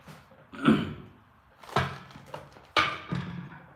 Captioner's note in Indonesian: berdehem